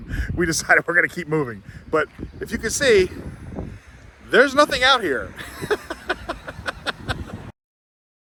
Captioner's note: laughs